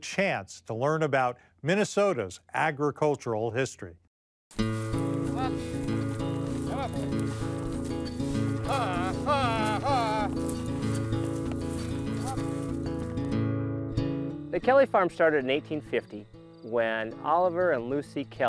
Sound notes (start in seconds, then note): 4.2 acoustic guitar finger-picking in bright rhythm; 7.4 man voices commands to the oxen